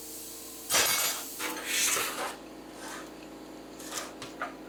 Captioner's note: metal clanking